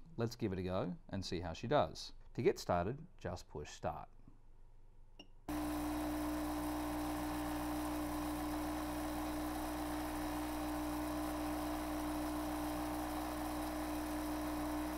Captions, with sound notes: Let's give it a go and see how she does! To get started, just push Start. (BeadBug whirring)